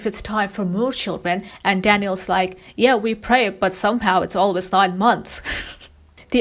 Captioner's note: laughs